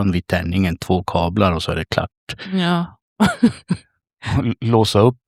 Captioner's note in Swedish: skratt